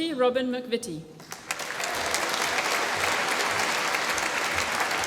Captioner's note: applause